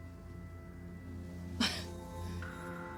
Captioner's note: scoffs